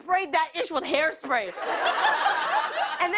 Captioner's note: laughter